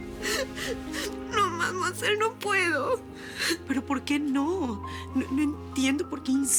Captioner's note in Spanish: Sollozos